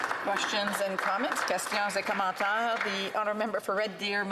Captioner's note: some Applause